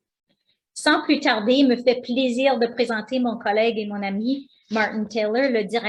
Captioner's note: speaking foreign language